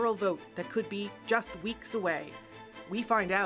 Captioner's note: speaking french